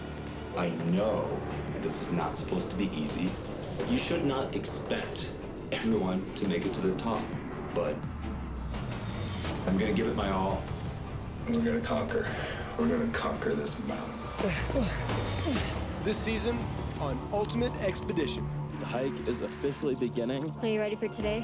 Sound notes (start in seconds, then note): 15.8 voiceover